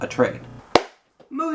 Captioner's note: clap